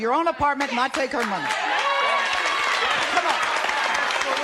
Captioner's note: applause